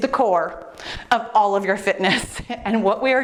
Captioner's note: laughs